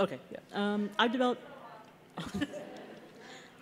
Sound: laughter

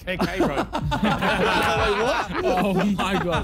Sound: men laughing

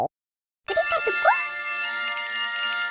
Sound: speaks gibberish

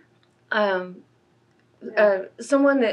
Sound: laughs

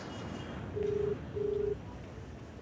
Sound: mobile Phone ringing

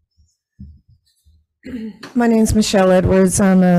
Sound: clears throat

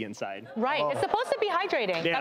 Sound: audience groaning

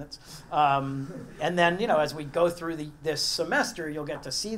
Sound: laugh

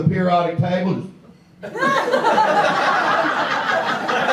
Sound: audience laughs

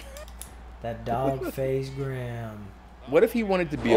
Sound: laugh

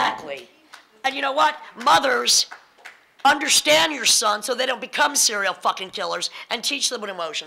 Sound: applause

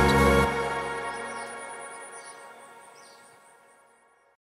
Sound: birds chirping

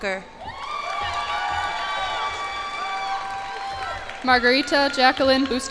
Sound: cheers and applause

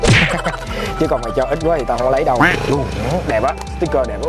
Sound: haha

